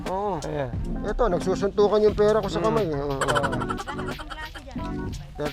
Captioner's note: laugh